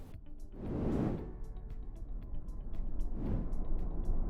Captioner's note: whooshing